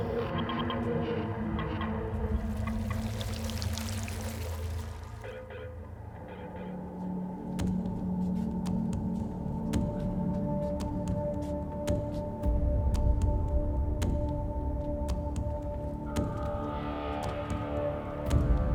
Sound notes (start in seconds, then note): 2.4 wet splashing; 7.8 intense music